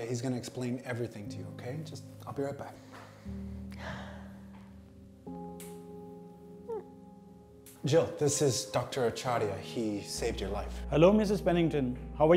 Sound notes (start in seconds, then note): 3.7 sighs